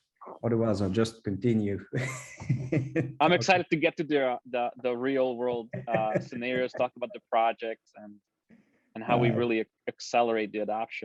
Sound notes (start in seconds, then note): 1.9 giggles